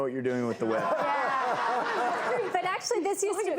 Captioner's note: laughter